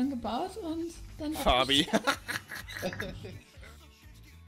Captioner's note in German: dreckiges Lachen